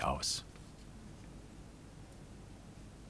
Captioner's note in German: Leises Rauschen im Hintergrund